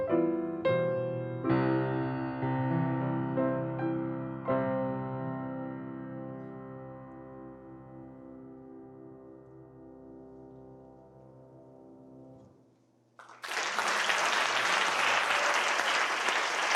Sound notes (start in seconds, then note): 13.2 applause